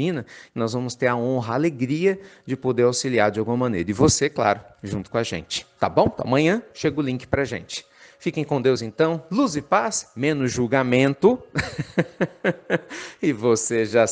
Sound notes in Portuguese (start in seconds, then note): 11.5 Risos